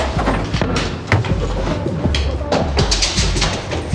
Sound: footsteps thudding

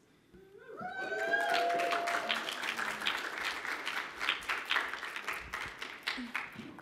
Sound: applause

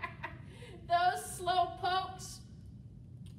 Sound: laughter

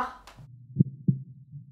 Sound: heartbeat

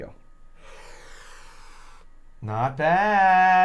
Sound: inhaling sharply

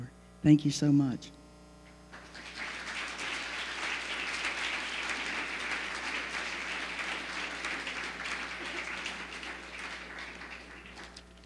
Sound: applause

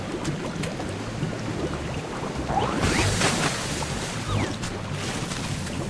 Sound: bubbles sound; water sound

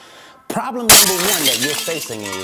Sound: glass crashing

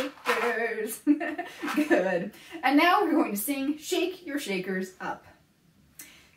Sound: laughs; singing

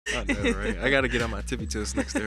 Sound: chuckling

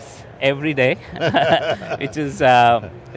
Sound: laughing

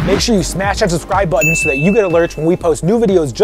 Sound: bell rings

